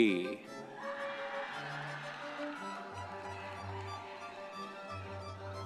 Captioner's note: audience members cheering